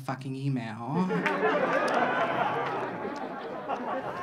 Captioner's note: audience laughing